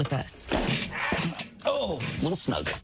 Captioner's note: slamming table; LiMu squawks